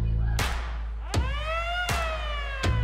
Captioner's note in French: sirène